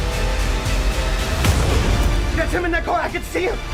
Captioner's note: suspenseful music; explosion